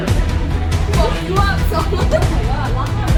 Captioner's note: giggle